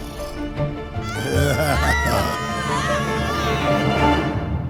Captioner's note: evil laughter